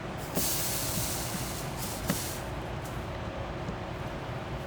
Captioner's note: background whirring